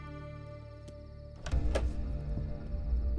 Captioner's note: Door opens